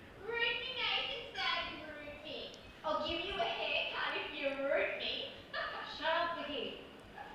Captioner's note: laughs